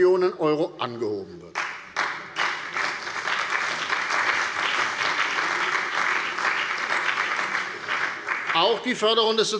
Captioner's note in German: Beifall bei der CDU und dem BÜNDNIS 90/DIE GRÜNEN